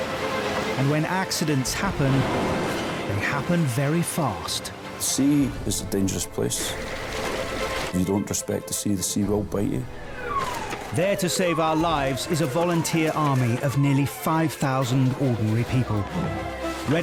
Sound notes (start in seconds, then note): 0.0 water splashing; 2.5 intense instrumental music; 6.9 water splashing; 9.8 siren blaring